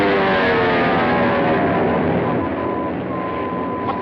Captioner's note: beeping